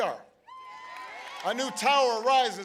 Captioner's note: applause